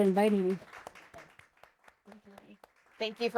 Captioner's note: audience clapping